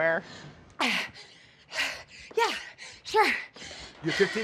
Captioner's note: breathing heavily